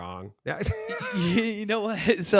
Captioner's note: laughs